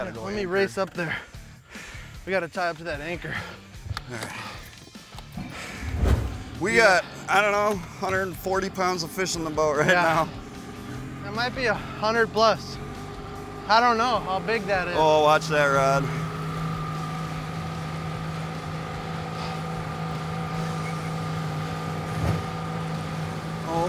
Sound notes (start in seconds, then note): 5.5 motor starts; 16.3 motor running